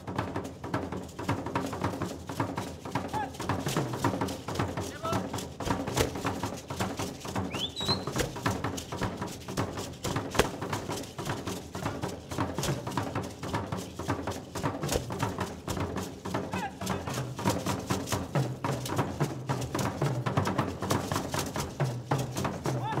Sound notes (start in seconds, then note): 0.1 drums beating and beads rattling; 7.4 whistling; 8.1 drums beating and beads rattling; 17.0 shouting in language other than English